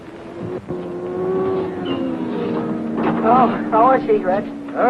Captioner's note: cars revving